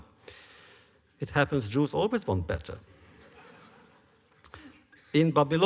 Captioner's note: laughter